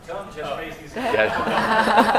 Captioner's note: laughter